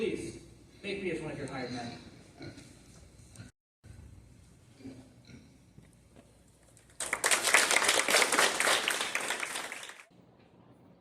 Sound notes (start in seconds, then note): 6.9 applause